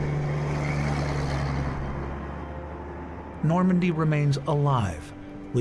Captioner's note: truck engine humming